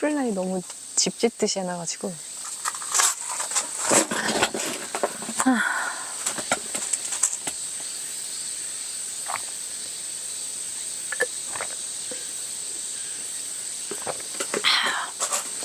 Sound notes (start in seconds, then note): 8.7 gulp